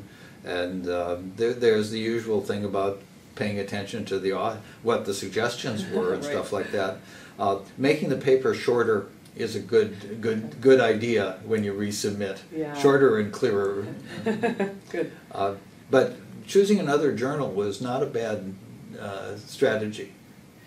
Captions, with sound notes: And there, there's the usual thing about paying attention to the author, what the suggestions were. [laugh] Right. And stuff like that. Making the paper shorter is a good, good, good idea when you resubmit. Yeah. Shorter and clearer. [laugh] Good. But choosing another journal was not a bad strategy.